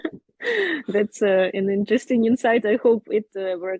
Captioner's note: laughs